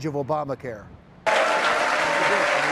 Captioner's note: cheering